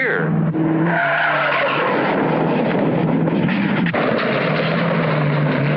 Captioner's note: tires screeching